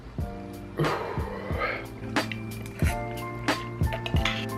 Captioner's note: loudly exhales